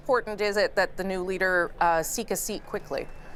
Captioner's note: none